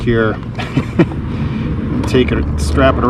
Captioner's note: laughs